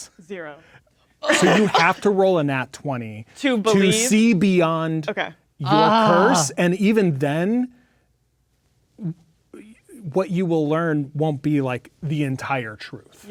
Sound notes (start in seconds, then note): 5.6 groaning